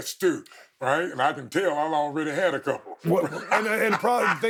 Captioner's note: laughing